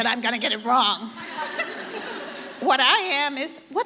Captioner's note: audience laughter